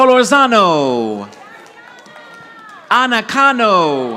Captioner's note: audience applauding